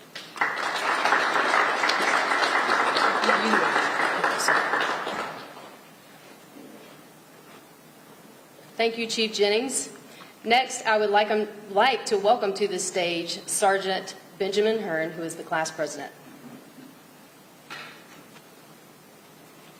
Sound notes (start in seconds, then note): 3.7 applause